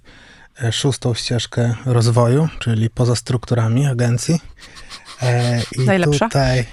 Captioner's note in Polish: śmiech